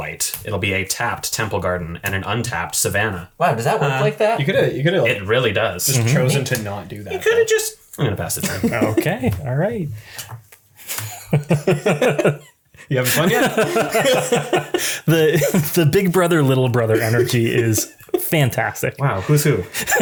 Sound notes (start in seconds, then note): 9.3 everyone laughing